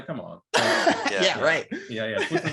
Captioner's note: laughing